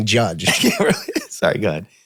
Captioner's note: Glenn laughs